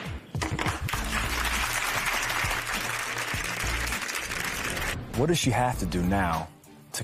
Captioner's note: applause